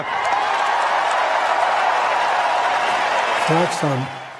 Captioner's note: applause